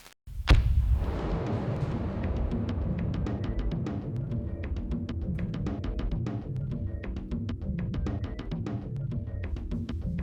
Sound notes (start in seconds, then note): 0.4 loud bang; 3.4 tense music